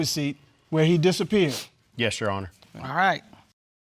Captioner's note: sniffling